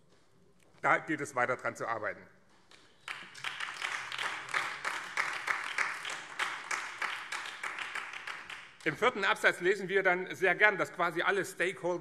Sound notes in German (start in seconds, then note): 4.4 Beifall BÜNDNIS 90/DIE GRÜNEN